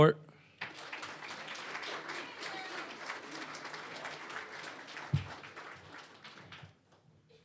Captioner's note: applause